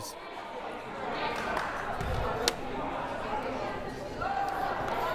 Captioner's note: crowd murmuring